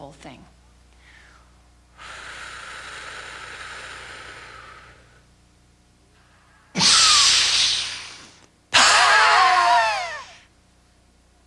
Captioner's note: breathing